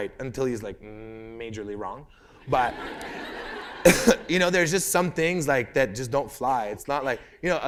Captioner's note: laughter